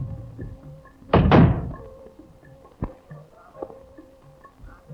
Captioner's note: door thudding